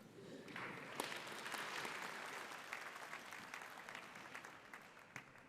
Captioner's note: audience applauding